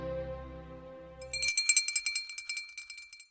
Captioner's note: bell jingling